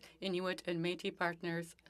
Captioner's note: speaking French